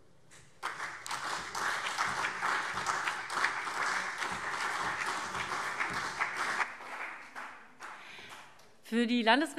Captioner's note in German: Beifall CDU und BÜNDNIS 90/DIE GRÜNEN